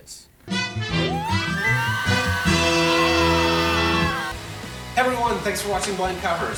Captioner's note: everyone screams